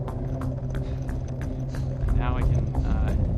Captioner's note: wind blowing